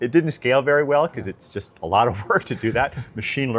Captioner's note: laughs